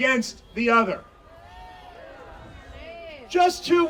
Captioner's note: audience cheering